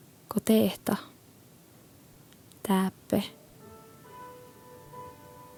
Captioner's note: poetic recitation in Sámi language